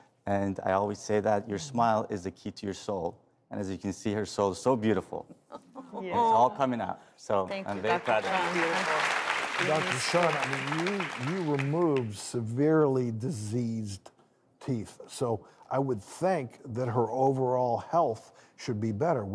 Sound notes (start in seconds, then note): 9.3 audience applause